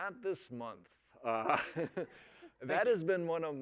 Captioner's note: laughter